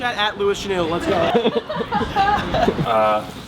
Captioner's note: laughing